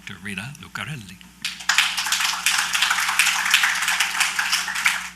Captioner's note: applause